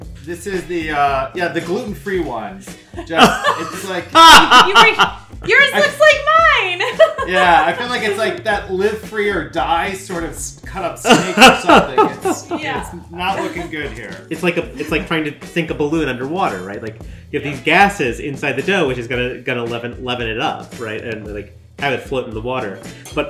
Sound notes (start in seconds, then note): 4.3 laughs; 6.6 giggles